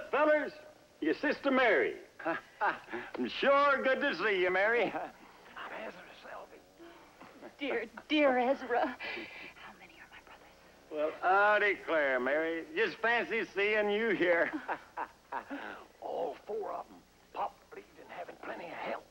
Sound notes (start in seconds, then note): 2.2 chuckles; 4.9 whispers; 8.2 whispers; 14.3 chuckles